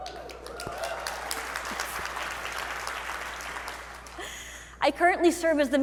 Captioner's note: audience applauding